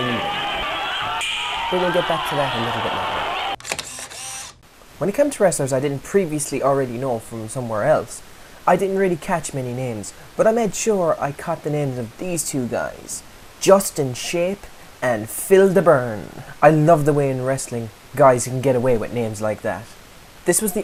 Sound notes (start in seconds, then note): 3.6 camera Click